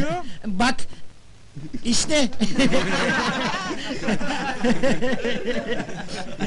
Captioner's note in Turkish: gülüşürler